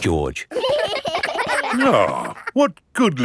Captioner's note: giggling